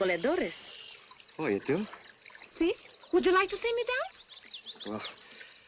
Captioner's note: shyly